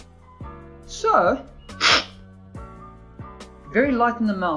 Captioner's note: slurping